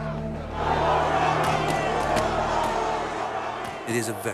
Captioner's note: tense music; rioters shouting; guns roaring